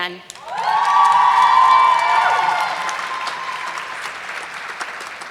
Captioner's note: audience clapping